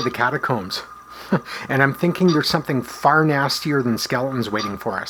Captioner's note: chuckle